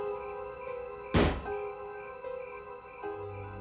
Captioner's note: gunshot